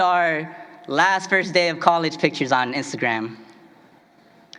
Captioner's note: foreign language